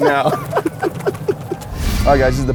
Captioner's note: laughs